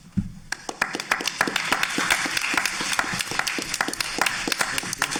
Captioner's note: audience applauding